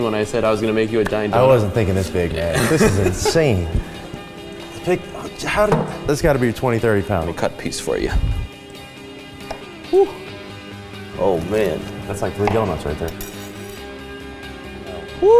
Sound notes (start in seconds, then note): 2.4 laughs